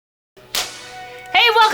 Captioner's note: clapperboard snaps